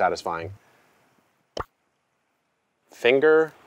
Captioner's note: popping sound